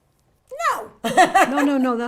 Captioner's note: laughs